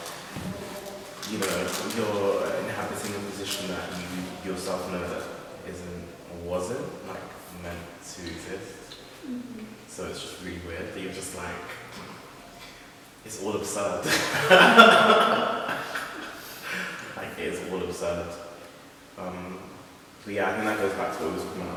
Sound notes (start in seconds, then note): 14.0 laughter; 14.0 laughs